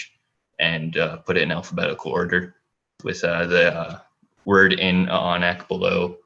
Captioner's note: foreign language